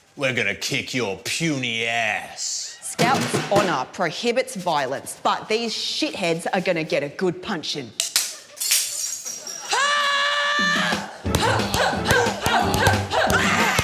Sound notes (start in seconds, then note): 8.1 shattering sound effect; 9.7 yells, grunts repeatedly; 13.6 action music plays